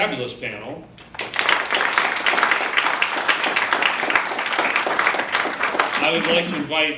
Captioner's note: clapping